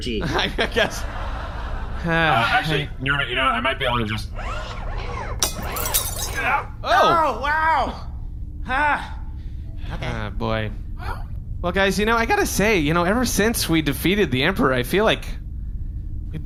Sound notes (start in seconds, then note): 5.4 bottle cracks open